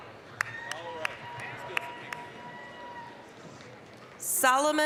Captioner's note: applause, cheering